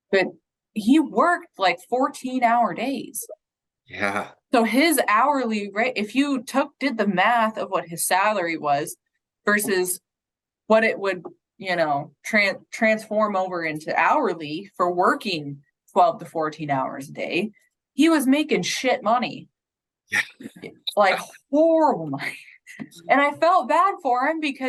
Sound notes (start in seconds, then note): 19.8 speaking faintly